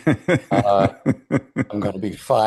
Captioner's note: laughs